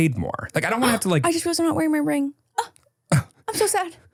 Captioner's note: gasps